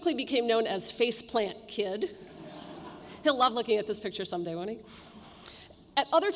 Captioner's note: laughter